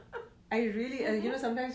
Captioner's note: laughs